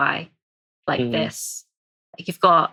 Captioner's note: laughs